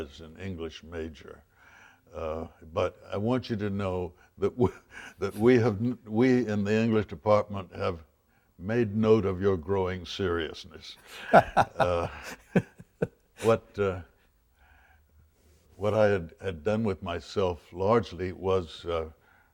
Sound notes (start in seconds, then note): 11.0 both laugh